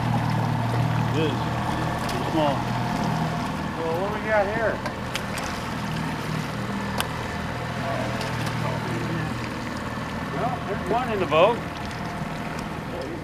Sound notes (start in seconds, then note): 2.9 fish splashing; 8.3 boat engine idling